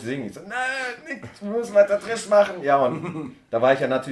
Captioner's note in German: verzweifelt